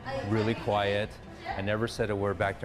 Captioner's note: people conversing